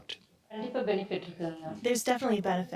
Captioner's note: speaking foreign language